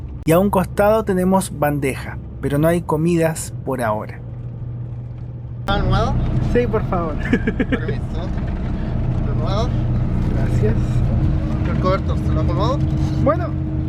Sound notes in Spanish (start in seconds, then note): 7.2 risas